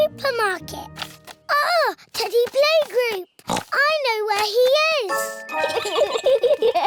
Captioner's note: oinks; both giggle